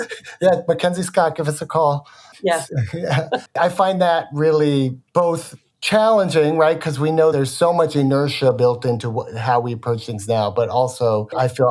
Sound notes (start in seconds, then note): 2.5 chuckles